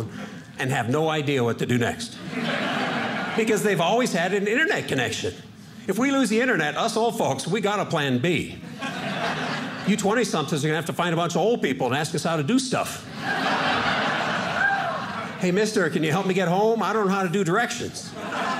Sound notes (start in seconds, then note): 13.0 audience laughing; 18.0 audience laughing